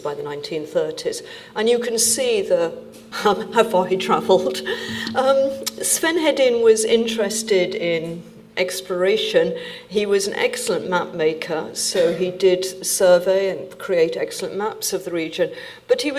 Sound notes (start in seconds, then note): 3.3 chuckles